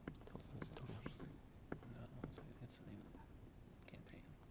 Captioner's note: whispering